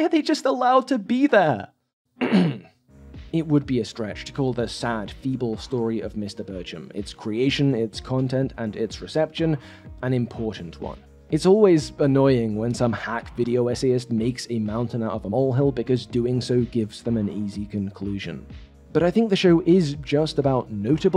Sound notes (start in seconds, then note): 2.2 clears throat